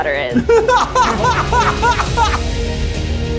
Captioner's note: laughs; dramatic music